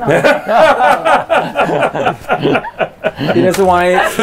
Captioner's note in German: alle lachen